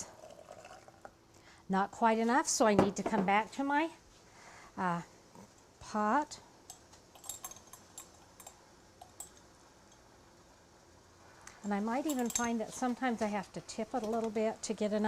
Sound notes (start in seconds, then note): 0.1 liquid filling; 7.2 jingling